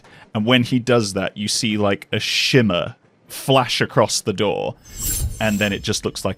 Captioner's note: quick sparkle noise